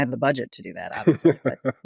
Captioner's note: laughs